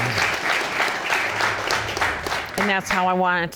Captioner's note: audience applauding